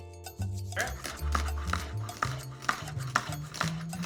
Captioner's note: knife taps